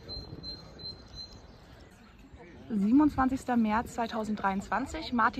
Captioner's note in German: Vogelgezwitscher